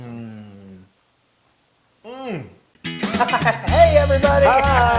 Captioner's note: laugh